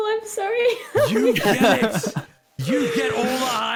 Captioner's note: laughs